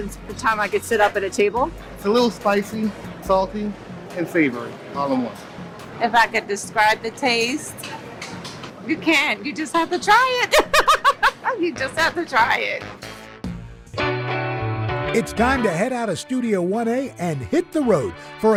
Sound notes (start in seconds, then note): 10.4 laughs